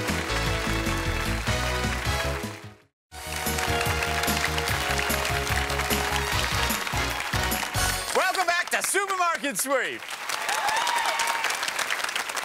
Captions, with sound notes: (applause) -Welcome back to "Supermarket Sweep."